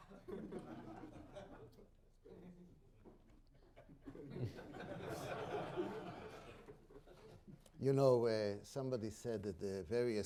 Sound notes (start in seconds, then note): 0.0 laughter